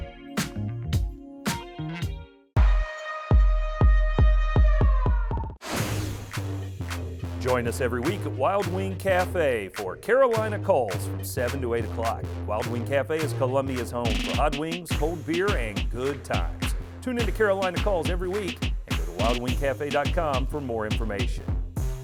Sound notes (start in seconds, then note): 0.0 groovy music; 2.7 siren